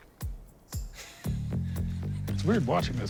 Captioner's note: laughs